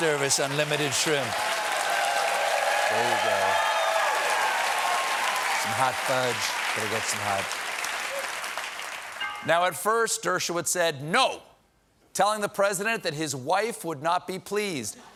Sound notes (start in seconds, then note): 5.2 cheers and applause; 9.2 piano riff